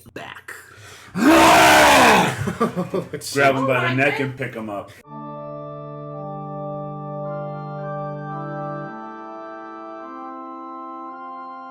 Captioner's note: loud roar; organ Music